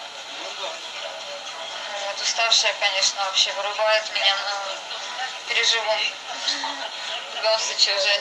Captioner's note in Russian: смеется